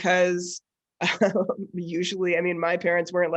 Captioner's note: chuckles